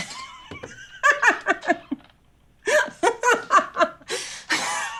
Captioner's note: laughing